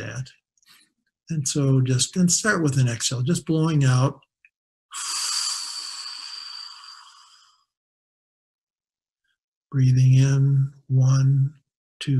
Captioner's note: exhaling